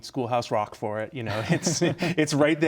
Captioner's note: laughs